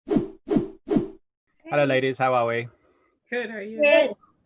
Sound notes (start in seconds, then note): 0.8 air whooshing